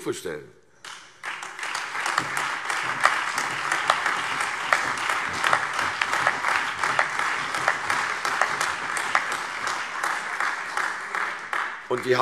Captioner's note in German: Beifall CDU BÜNDNIS 90/DIE GRÜNEN, AfD und Freie Demokraten